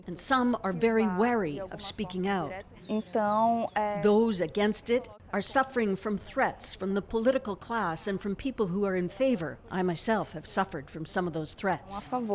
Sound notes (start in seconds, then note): 4.4 speaking alternate language